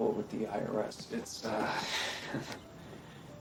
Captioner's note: chuckles